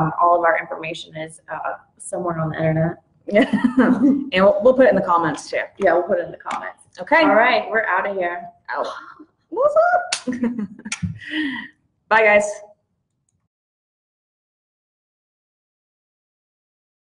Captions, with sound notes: All of our information is somewhere on the Internet. (laughs) - We'll put it in the comments too. - Yeah, we'll put it in the comments. - Okay. - Alright, we're outta here. - Out, what's up? (chuckles) Bye, guys.